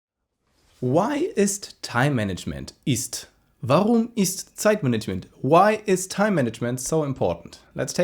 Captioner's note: German